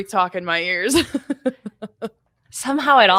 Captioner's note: laughs